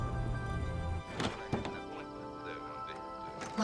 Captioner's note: door creaks open